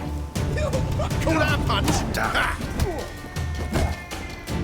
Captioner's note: punches land